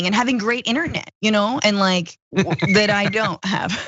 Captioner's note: laugh